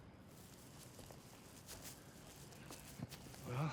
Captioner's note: footstep